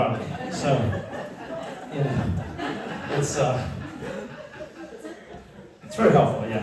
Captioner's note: laughter